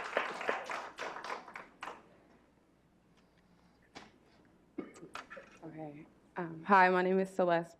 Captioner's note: clapping